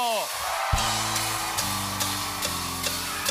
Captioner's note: cheers and applause